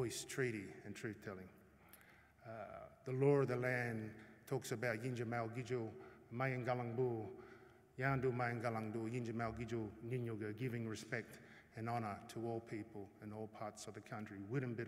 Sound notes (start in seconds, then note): 7.5 non-english speech; 14.5 non-english speech